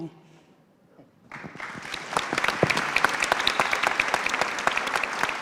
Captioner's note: applause